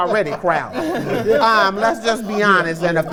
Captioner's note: laughter